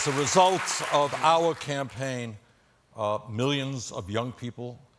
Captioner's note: cheers and applause